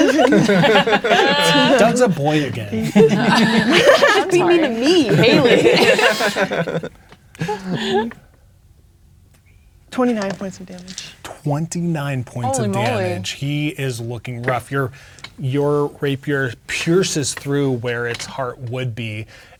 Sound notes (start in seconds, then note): 0.0 players laughing; 6.1 players laughing; 8.1 counting quietly